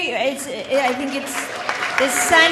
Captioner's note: audience applauding